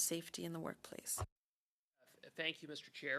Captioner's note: speaking French